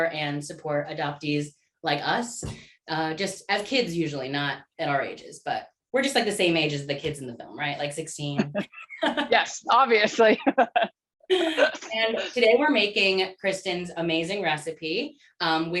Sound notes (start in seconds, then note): 10.0 laughter; 11.3 laughing